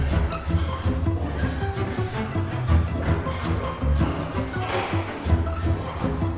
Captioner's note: echoing footsteps